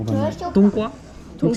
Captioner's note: Mandarin